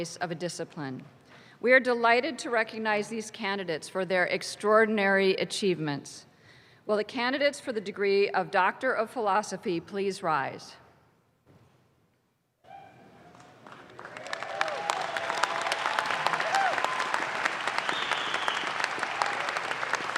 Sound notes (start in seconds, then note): 13.3 audience claps